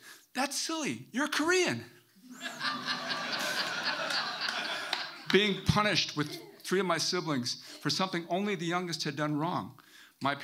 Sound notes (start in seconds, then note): 2.3 audience laughing